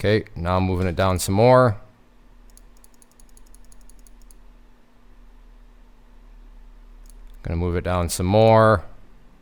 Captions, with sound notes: Okay, now I'm moving it down some more. (clicking) Gonna move it down some more.